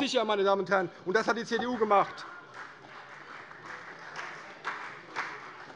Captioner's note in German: Beifall CDU und vereinzelt BÜNDNIS 90/DIE GRÜNEN